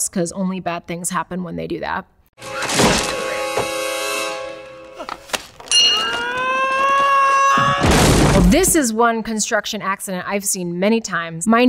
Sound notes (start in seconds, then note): 2.4 intense music; 5.6 bell dings; 5.7 yells